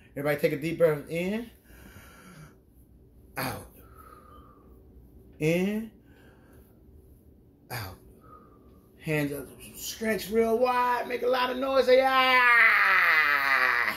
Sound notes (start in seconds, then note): 3.7 exhales deeply; 3.7 inhales deeply; 8.0 exhales deeply; 13.0 growls